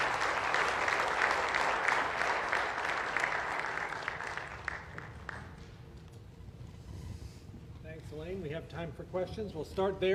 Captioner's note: applause